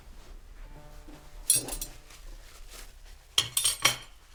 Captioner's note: clanking utensils